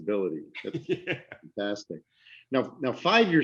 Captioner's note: laughter